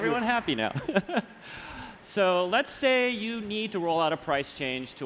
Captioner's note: applause